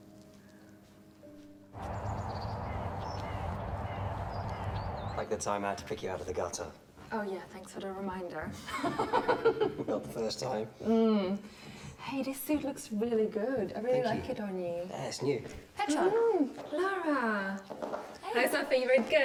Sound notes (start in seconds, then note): 1.7 birds chirping; 8.6 woman laughing